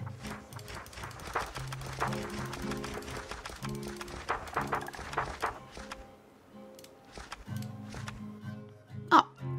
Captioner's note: page flipping